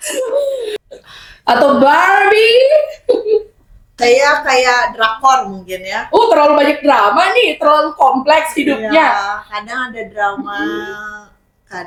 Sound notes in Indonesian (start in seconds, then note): 0.7 terkesiap